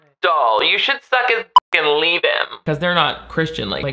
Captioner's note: beep